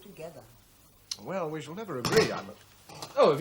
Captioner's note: inkwell clatters